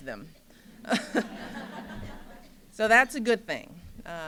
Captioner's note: laughter